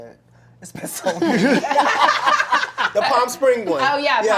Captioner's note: laughter